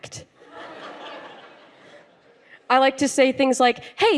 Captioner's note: laughter